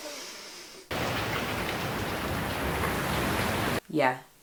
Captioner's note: 'Rainy day' sounds